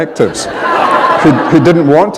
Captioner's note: laughter